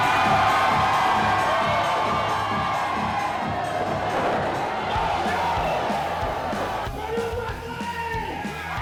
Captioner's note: crowd cheering